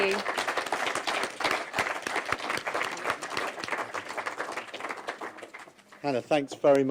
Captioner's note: applause from the audience